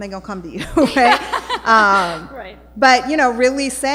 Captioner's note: laughing